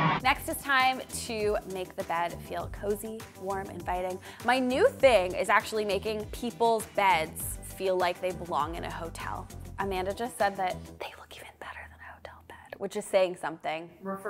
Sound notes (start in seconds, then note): 10.8 whispering